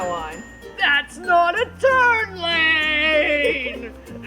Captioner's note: deep-ish voice